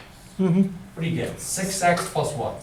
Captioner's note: voiceover